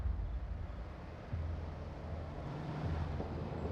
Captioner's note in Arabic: اقتراب سيارة